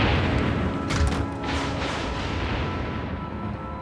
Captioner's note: lightning cracks